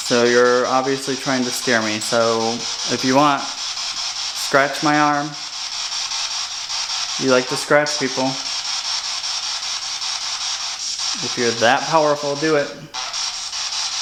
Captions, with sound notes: So you're obviously trying to scare me. So, if you want scratch my arm. You like to scratch people. (static) If you're that powerful, do it (static).